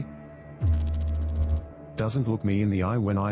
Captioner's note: electrical noise